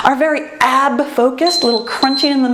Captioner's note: timer beeps